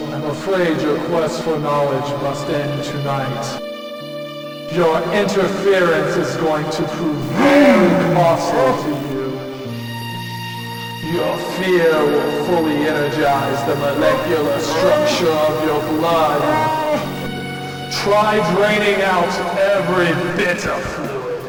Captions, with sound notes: - Oh, I'm afraid your quest for knowledge must end tonight. Your interference is going to prove very hostile to you. (monster yells) Your fear will fully energize the molecular structure of your blood. - No! - Try draining out every bit of fluid.